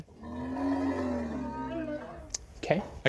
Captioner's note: Bigfoot roaring